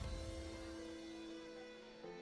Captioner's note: none